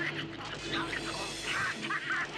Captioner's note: yelling; roaring